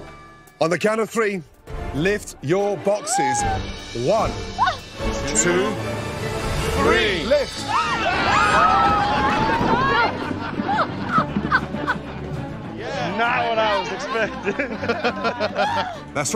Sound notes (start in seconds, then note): 7.5 all scream; 9.0 laughing